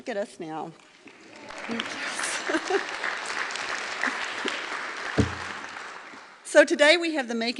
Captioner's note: applause